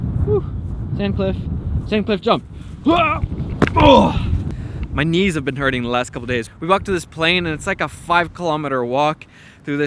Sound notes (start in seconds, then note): 3.8 grunts